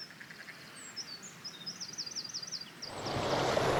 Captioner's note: birdsong; water